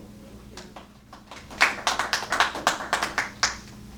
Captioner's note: applause